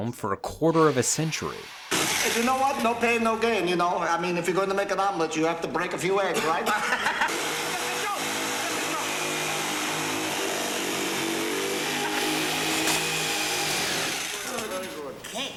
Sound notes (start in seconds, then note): 6.4 laughs; 7.2 saw whirring; 7.5 Dr. Wachenstein exclaiming